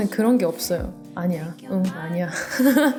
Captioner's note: laugh